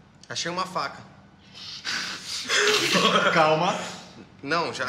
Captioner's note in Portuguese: Risadas